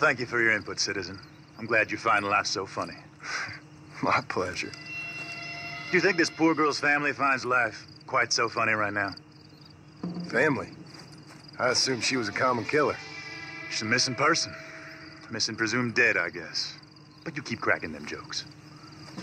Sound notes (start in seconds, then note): 2.1 John Marston chuckles